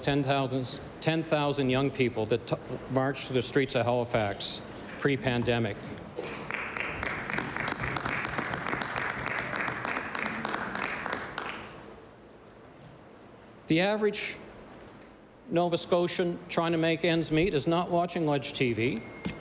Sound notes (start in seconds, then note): 10.9 applause